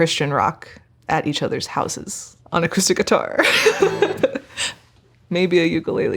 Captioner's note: laughing